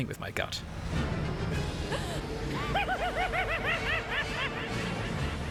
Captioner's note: gasp; maniacal laughter